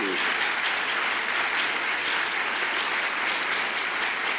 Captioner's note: audience applause